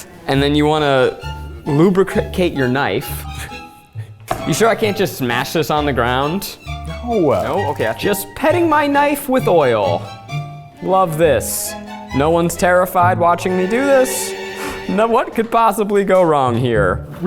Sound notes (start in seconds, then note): 3.6 laughing